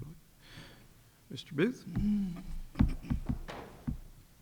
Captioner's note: tapping